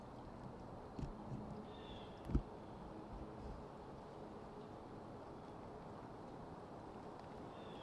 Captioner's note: wind